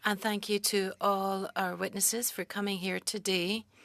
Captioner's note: speaking French